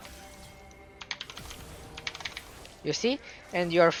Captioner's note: keyboard clicking